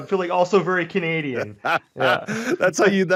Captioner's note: laughs